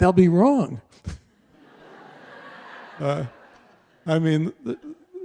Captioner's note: audience laughter